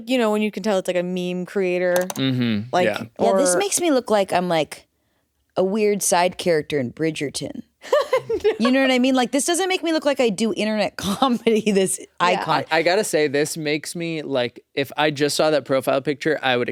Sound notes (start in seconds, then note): 7.8 laughs